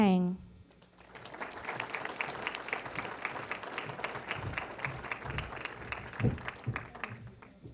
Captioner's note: applause